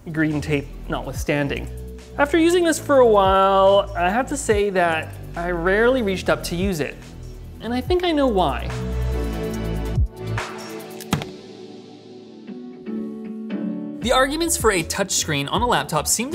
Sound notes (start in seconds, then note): 9.3 light airy music; 11.0 screen hits keyboard